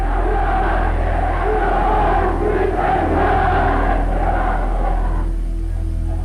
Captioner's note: crowd chanting in foreign language